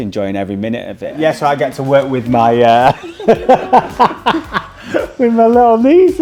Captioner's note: laughing